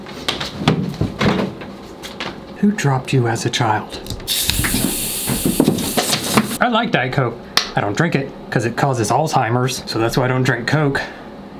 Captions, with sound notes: Who dropped you as a child? (soda fizzing softly) I like Diet Coke. I don't drink it 'cause it causes Alzheimer's, so that's why I don't drink Coke,